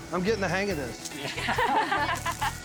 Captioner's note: ladies laughing